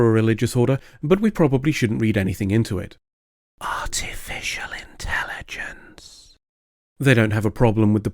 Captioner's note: whispering* Artificial Intelligence